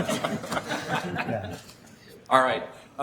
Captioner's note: laughing